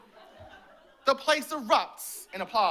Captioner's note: laughter